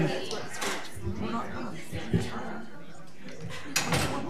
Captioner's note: crowd murmuring